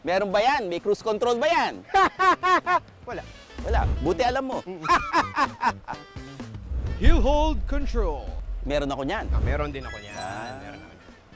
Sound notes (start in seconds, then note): 2.1 laughs sarcastically; 4.8 continues laughing